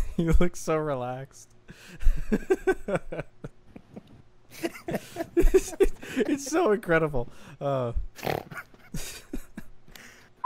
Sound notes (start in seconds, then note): 1.9 laughter; 4.6 laughter cont; 8.2 snort